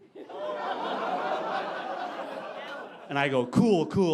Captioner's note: audience laughing